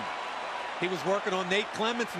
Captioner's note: cheering